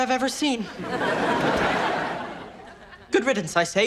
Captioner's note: audience laughs